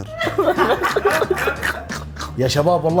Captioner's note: laughter